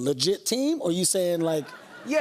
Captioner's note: laughter